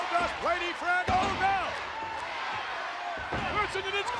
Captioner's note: spectators cheering